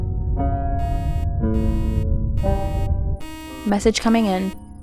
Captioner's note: beeping